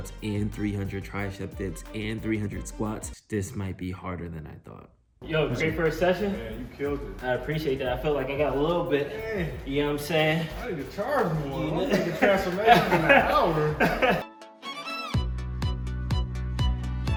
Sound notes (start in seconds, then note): 13.3 laughing; 14.1 upbeat music playing